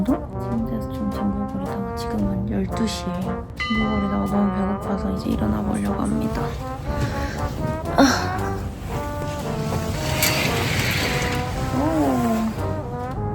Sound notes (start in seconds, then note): 6.3 groaning sound